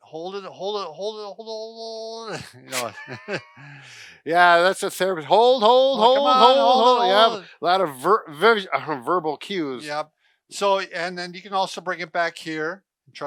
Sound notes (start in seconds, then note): 2.3 both laugh